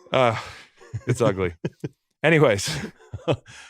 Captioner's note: laughs